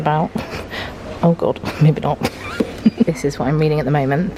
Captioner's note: chuckles